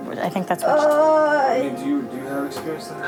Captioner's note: moaning